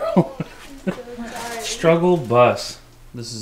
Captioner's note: laughing